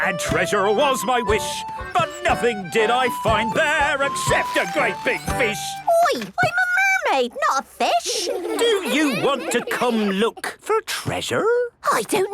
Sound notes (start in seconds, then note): 7.9 children giggling